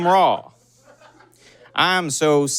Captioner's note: scattered laughter